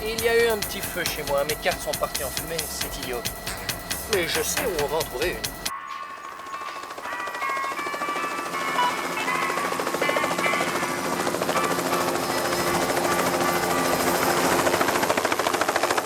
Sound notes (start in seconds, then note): 5.6 instrumental music playing; 7.0 chopper SPINNING ABOVE